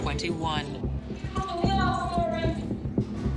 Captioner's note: woman shouts